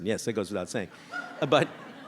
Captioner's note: audience laughs